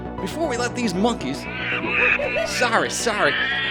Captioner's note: angry ape noises